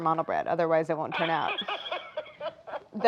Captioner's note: laughs